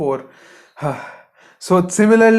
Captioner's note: sighs